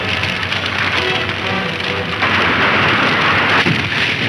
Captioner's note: crashing